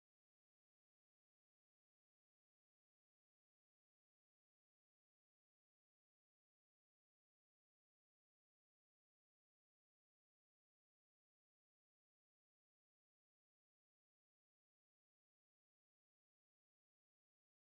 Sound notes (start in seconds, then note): none